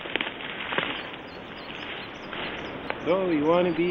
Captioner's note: misquotes buzzing